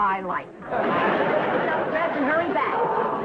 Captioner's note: audience laughing